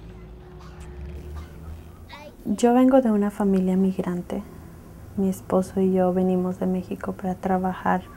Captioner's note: speaking in Spanish